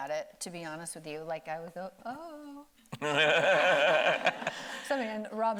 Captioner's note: laughing